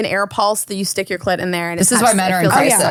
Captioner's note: overlapping chatter